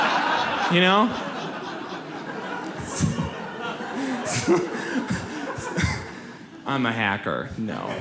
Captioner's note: audience laughs